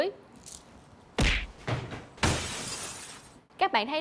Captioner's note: punching and cracking sound